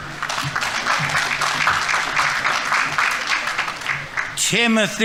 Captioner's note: audience applauding